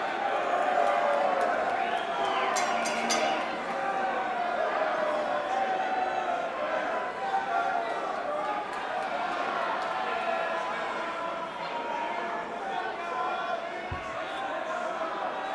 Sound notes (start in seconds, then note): 0.0 crowd cheering; 3.6 bell ringing; 5.5 crowd chatter